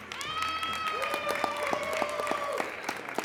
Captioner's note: applauding